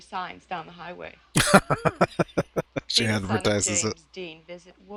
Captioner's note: laughing